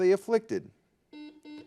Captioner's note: buzzer buzzes